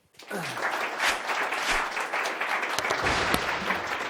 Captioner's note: audience applauds